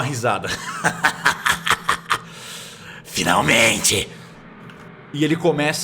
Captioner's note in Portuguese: Risada